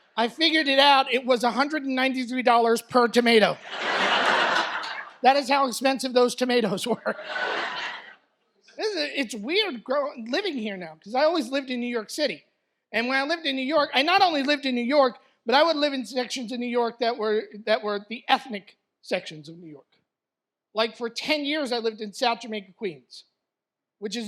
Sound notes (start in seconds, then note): 3.6 audience laughs; 6.9 laughter